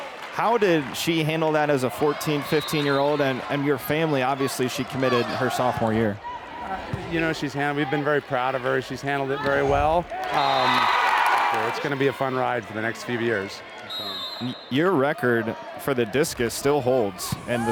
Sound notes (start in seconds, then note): 10.4 crowd and players cheering